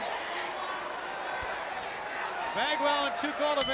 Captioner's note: crowd chatter